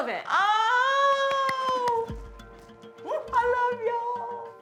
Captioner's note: claps